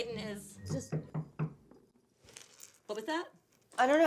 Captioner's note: knocking